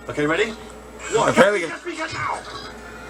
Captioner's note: both Exclaiming